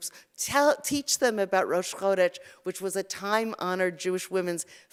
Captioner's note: Hebrew